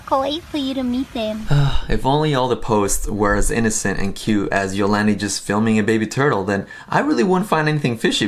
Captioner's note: sighs